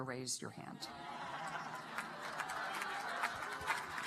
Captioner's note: laughter and applause